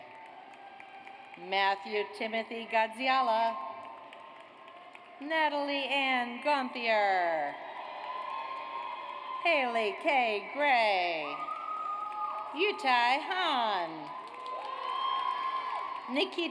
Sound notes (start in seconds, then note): 0.0 audience applauds; 3.7 audience applauds; 7.1 audience cheers